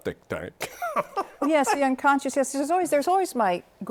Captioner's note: laughter